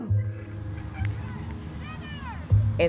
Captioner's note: kids calling in background